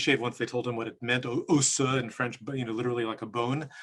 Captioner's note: speaks in French